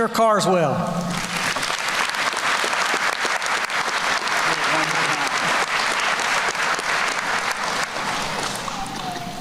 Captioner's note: applause